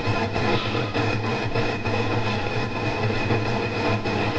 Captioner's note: radio static hissing